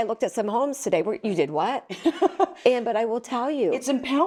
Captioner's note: laughs